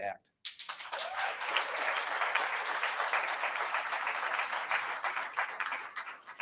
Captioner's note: attendees applauding and cheering